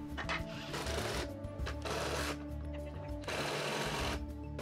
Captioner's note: drill whirring